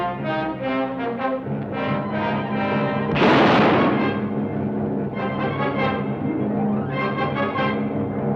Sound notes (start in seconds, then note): 3.1 gun fires